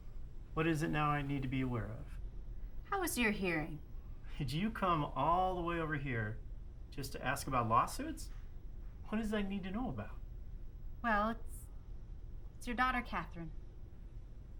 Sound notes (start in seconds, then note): none